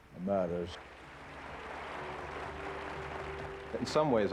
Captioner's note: applause